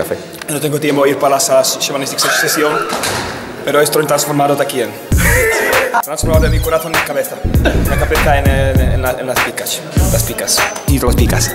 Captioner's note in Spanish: hace un gramelot en Español